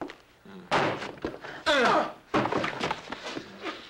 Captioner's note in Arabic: خرخرة